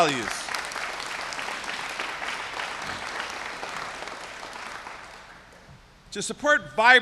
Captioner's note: applause